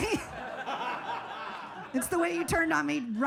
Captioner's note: audience laughing